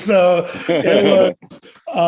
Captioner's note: all laughing